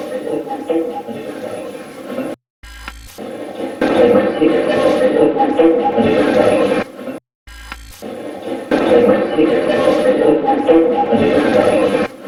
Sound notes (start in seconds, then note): 2.6 static fizzing; 2.6 static playback transmitting; 7.5 static fizzing